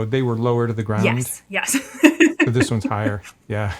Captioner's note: laughs